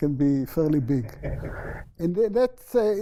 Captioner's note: laughter